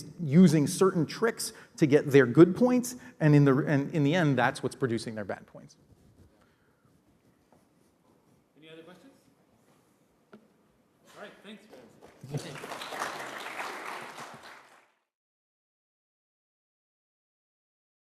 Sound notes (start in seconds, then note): 14.4 applause